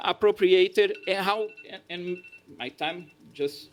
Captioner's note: phone alarm